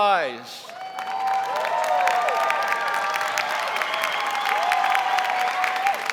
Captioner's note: audience cheering and applauding